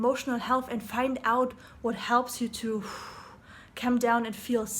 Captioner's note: exhaling